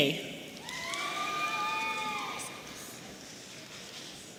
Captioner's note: audience cheering